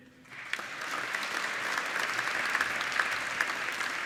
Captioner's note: applauding